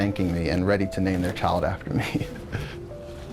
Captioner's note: laughs